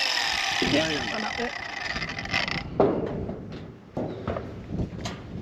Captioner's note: grinder whirring